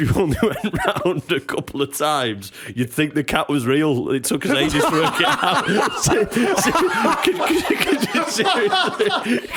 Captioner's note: laughter